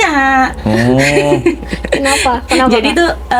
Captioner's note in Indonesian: tertawa